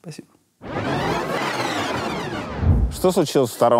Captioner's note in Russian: звук перемотки